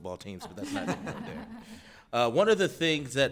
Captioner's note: people laughing